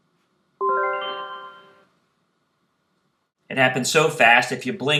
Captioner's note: chime sounds